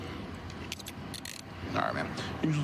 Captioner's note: handcuff closing